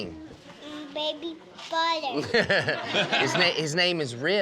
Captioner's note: crowd laughs